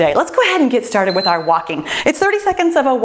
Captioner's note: timer beeps